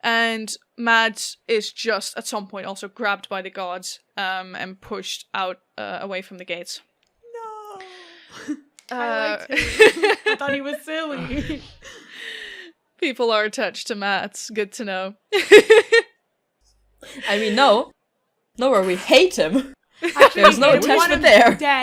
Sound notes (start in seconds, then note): 12.0 laughs; 13.1 sighs; 16.0 laughs